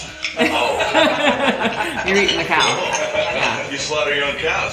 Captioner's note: laughs